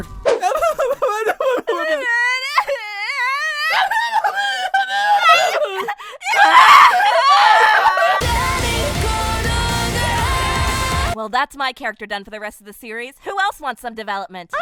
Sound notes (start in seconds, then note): 0.5 incoherent babbling; 7.0 incoherent crying and screaming